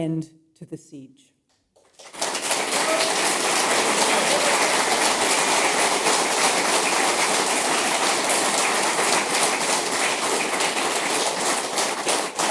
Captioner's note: applause